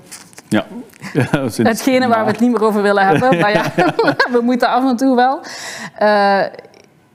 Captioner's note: laughs